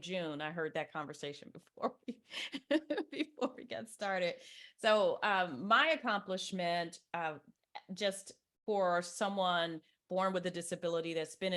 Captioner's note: chuckles